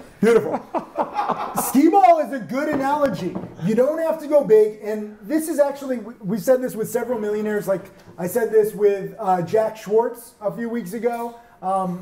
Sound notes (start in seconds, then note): 0.3 laughs; 2.6 tequila bottle thuds